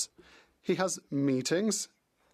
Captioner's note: speaking French